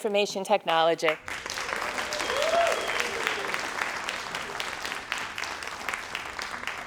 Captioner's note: crowd cheering and applauding